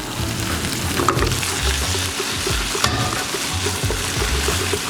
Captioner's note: oil sizzling